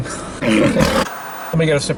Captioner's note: growling